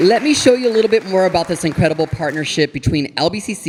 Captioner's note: audience applauding